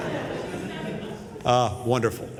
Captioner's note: laughter